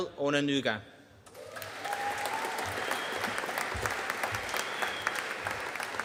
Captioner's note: audience cheering and applauding